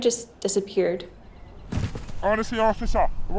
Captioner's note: thudding